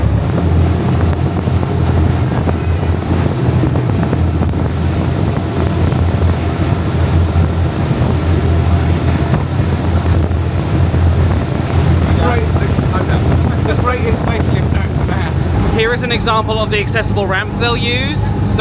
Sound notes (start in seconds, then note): 3.6 engine continues rumbling; 12.2 engine overpowers voices